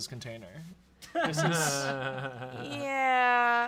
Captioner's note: laugh